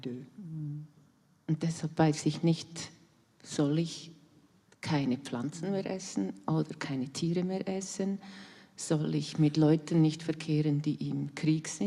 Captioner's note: in German